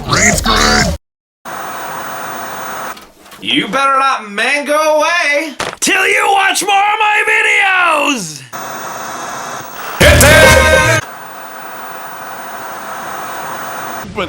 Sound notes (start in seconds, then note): 1.5 static crackling; 8.5 static crackling; 10.0 computer voiceover; 11.1 static crackling